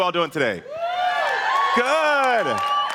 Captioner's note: audience cheering